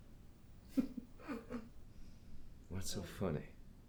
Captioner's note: Vanessa laughs